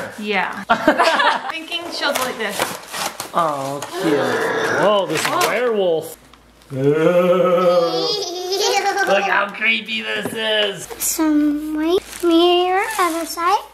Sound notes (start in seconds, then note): 0.7 laughing; 2.1 sound of paper tearing; 6.7 ghost sounds